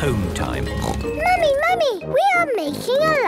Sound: snorts

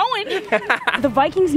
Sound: laughter

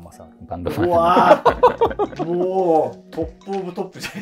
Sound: laughing

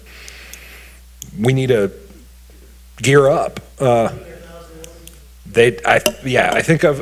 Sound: woman speaking distantly

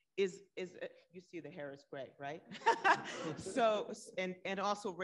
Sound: laughs

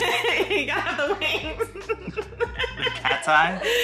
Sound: laughing

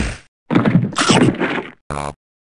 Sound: a sound from L4D2; chomp

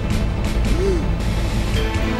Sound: gasping

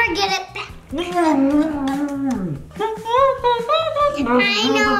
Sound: dad mumbles with mouth closed

